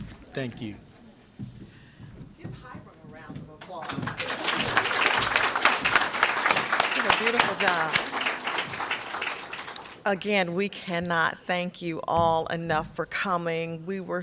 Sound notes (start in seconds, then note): 3.6 applause